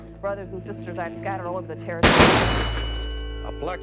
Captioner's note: gun shots